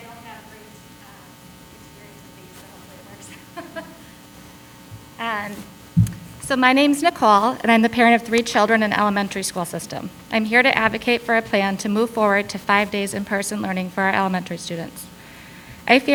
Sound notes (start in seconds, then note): 3.2 laughs